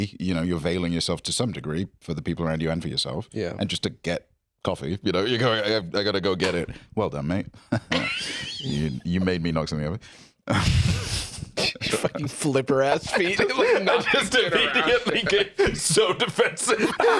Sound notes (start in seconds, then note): 7.6 chuckles; 11.6 laughs